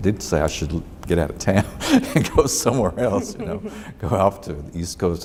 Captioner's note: laughs